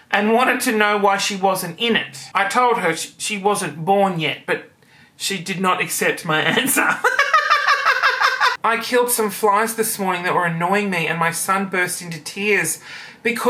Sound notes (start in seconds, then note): 6.8 laughing